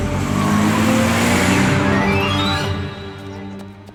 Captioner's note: tires squeal; dramatic music